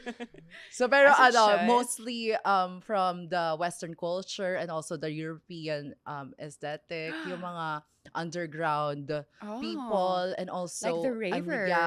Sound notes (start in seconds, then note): 0.1 laughs; 7.1 gasps